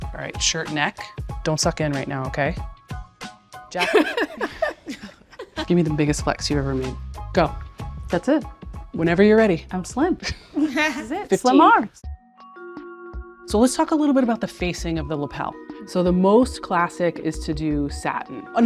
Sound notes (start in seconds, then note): 2.7 bright piano music; 3.8 laughs; 10.2 laughs